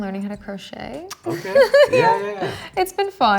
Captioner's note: laughing